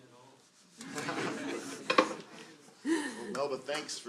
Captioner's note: laughter